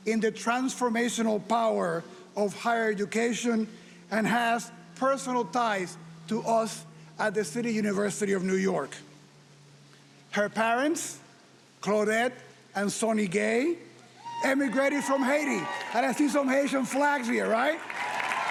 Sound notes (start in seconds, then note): 14.2 audience cheering; 18.2 audience applauding and cheering